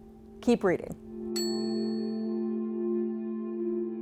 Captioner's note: bell rings